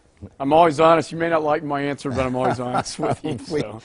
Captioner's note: laugh